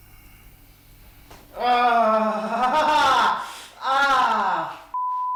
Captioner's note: painful groaning